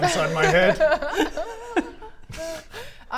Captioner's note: unreassuring giggles